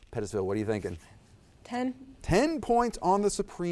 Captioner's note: none